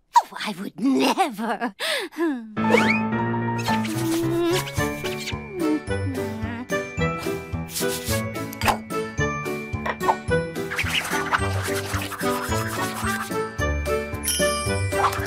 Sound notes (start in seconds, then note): 1.8 gasp